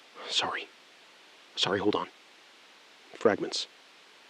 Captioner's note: SILENCE — 3 sec